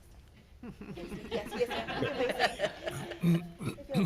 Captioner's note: everyone laughing